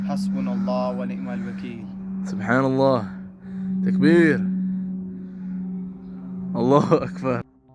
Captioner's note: Arabic